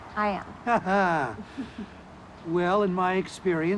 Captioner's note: laughing